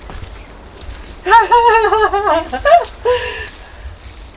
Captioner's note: nervous laugh